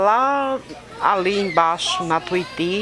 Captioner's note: child cries